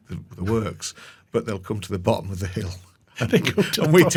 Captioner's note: chuckling